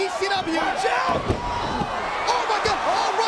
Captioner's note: mat thumping; crowd gasping